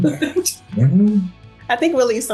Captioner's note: laughing